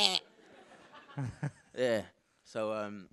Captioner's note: loud grunting; audience laughing